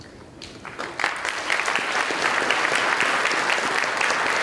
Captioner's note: applause